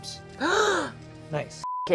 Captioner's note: gasps